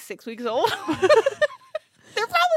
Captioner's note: laughs